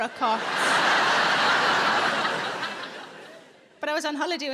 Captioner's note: audience laughing